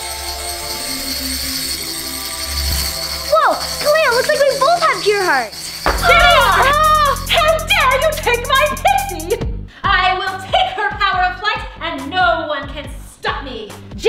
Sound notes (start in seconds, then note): 0.0 choral music continues; 5.9 girl cries out